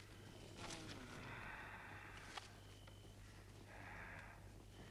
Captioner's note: Torente moaning